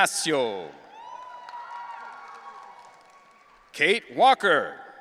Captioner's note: audience cheering